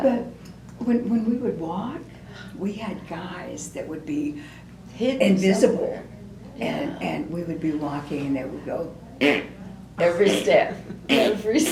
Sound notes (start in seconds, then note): 9.2 makes flatulence sound